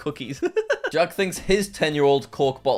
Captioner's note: laughs